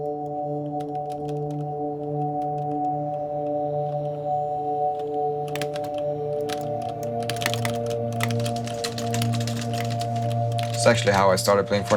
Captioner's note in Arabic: أصوات نقر على لوحة المفاتيح